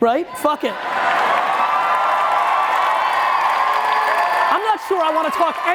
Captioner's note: audience cheering